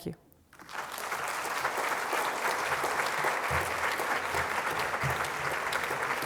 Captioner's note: audience applauds